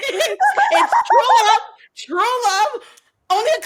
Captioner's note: laughs